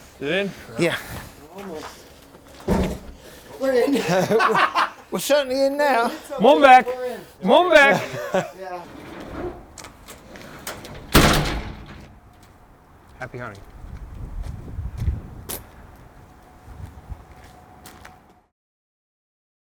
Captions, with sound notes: - Is it in? - Yeah. - We're in. (man laughs) We're certainly in now. - It's okay, we're in. - Moving back, moving back. (door slams) - Happy hunting.